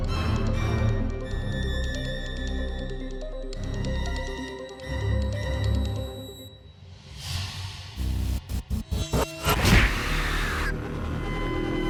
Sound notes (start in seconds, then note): 9.4 explosion booms